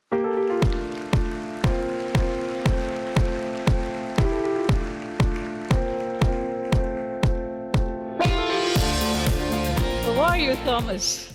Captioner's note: applause